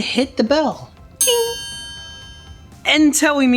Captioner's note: bell ringing